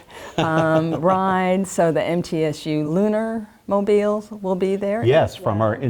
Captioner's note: laugh